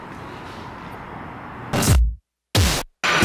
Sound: distortion noise

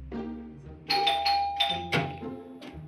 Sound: doorbell rings

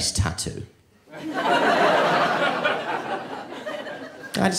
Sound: audience laughing

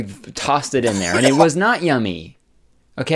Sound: coughing Sound effect

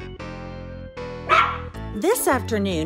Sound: dog bark

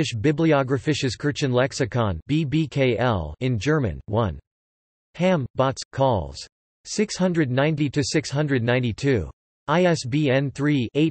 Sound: in German

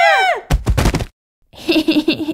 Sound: thud!

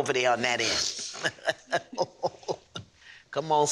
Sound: chuckling

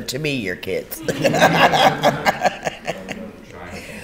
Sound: laughter

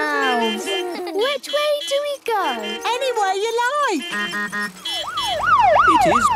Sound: laughter; honking, siren wailing

